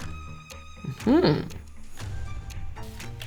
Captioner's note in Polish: znaczący pomruk